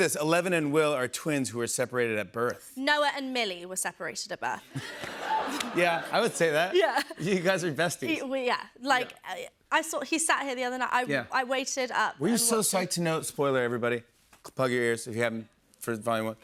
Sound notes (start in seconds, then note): 4.7 laughter